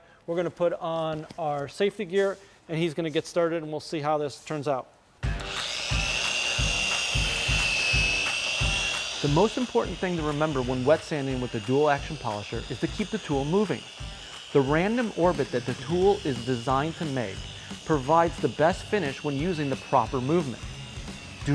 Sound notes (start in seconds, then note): 5.2 rock music; 5.6 machine whirring